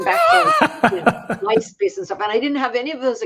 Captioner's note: laugh